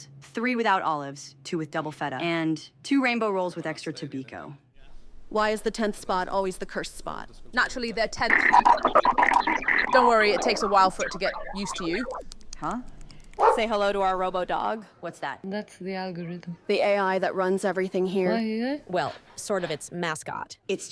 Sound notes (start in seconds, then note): 8.7 static buzzing; 13.4 Robo Dog barks